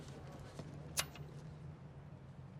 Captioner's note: click